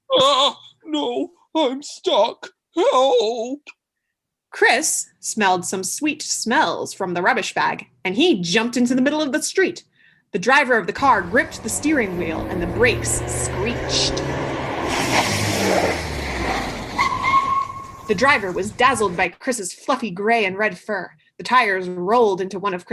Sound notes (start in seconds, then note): 16.3 brake screech sound